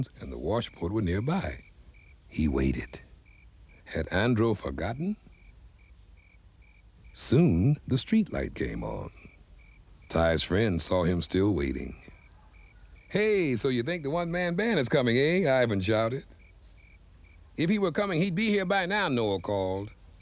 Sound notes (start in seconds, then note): none